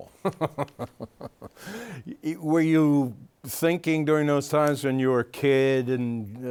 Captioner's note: laughing